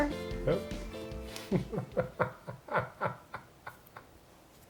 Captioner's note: laughing